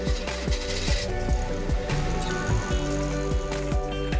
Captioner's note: engine revving; bright music continues